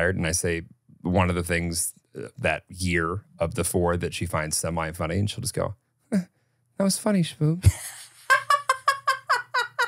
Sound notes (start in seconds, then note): 7.6 laughs; 7.7 laughs weakly